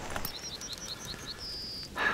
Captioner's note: fire crackles